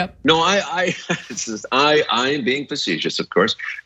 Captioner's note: laugh